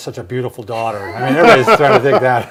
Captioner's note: laughing